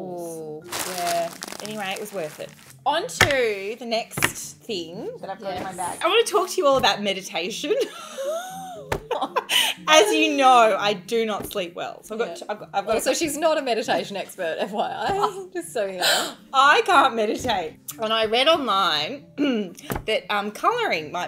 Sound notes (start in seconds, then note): 7.7 laughing